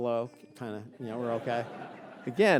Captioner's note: audience laughing